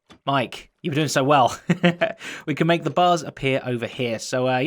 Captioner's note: chuckles